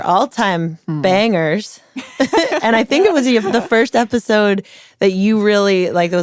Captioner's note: laughs